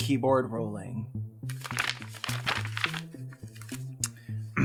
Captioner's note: pages flip; clears throat